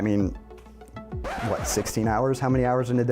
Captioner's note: record scratch